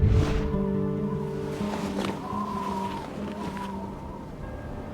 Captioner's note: wind whistles; low whooshing; dramatic music